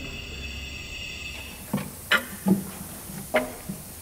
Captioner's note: hissing